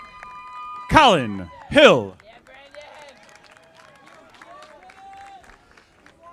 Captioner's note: audience applauding